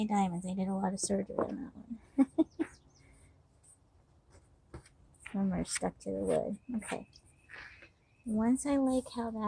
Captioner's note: laughter